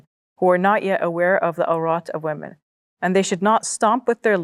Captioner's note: speaks Arabic